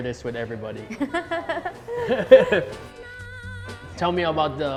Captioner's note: both laugh